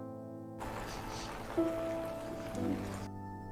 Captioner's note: Sienna cries